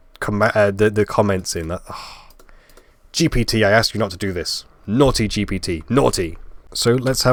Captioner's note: sigh